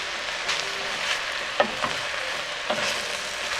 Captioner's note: food sizzling